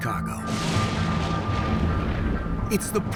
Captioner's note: lightning strikes